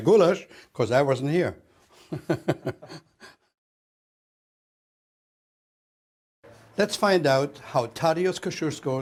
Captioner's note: laughs